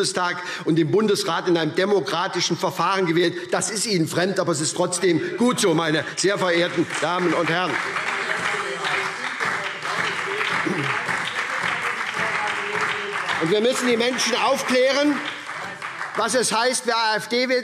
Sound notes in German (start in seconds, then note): 5.7 Beifall SPD und vereinzelt BÜNDNIS 90/DIE GRÜNEN